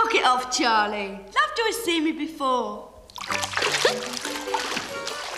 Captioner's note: gentle upbeat music; laughs